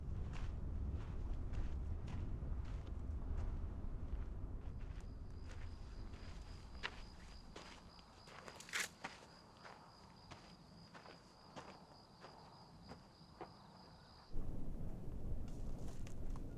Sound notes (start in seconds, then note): 7.1 insects chirring